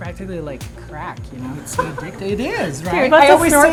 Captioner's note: laughing